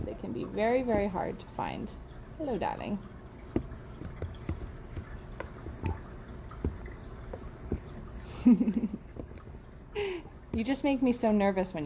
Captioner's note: chuckles